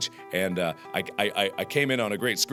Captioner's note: stuttering